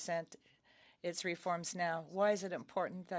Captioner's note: speaking French